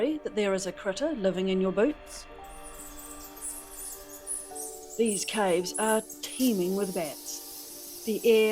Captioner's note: bats twittering